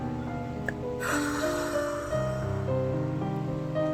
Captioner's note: take a deep breath